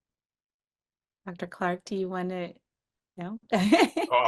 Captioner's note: laughs